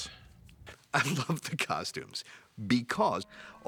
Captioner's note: laughing